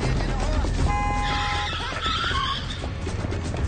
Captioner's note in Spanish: Chirrido de llantas; Sonido de claxon